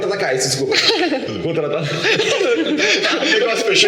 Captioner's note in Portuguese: Risos